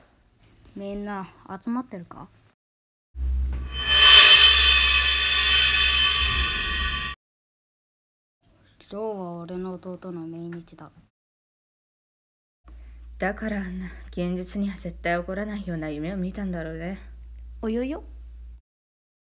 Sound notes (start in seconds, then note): 3.4 sound effect